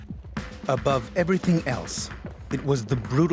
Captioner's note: voiceover